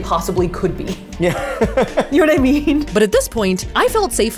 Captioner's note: laughing